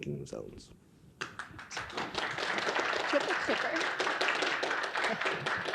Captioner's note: audience applauding